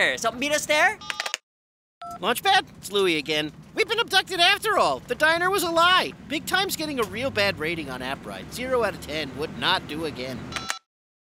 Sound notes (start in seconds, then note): 2.0 beeps